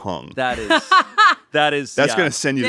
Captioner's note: laughs